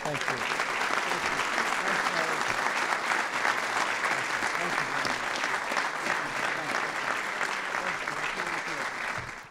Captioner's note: applause